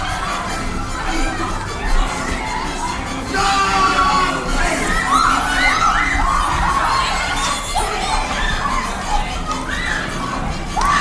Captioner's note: crowd commotion